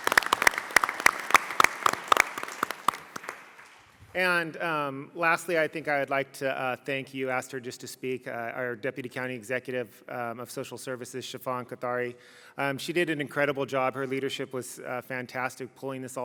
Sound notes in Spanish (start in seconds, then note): 2.6 Aplausos